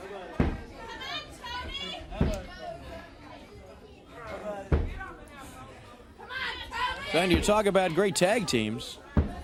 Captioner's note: crowd chatter